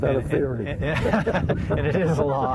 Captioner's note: laughing loudly